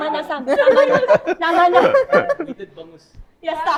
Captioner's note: laughs